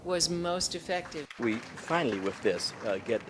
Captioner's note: applause